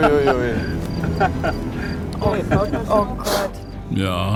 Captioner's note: laugh